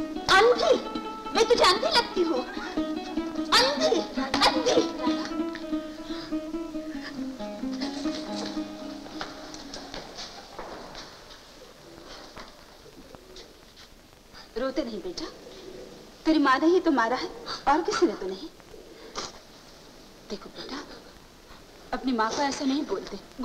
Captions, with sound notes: Blind? I seem blind to you? Blind? - Radha. (Crying) (Sobbing) You don't cry. Your mother has hit you, nobody else. Look, son. You don't talk to your mother like that.